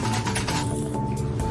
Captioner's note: shaking noises; pfft